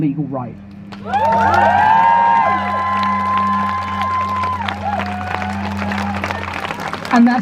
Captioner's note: crowd Cheers